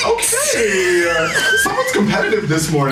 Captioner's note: laughter